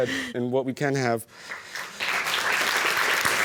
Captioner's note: applause